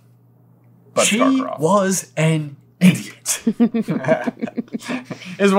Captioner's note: chuckling